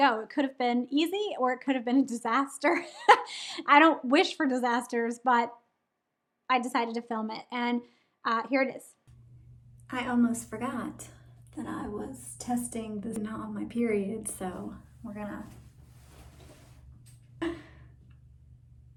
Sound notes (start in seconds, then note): 16.3 grunts